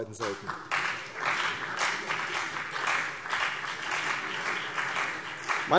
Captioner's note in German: Beifall CDU und BÜNDNIS 90/DIE GRÜNEN